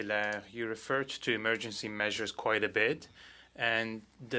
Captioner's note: speaking French